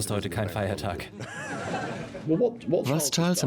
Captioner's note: laughter